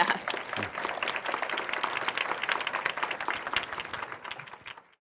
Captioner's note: applause